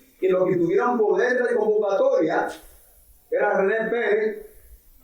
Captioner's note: speaking in foreign language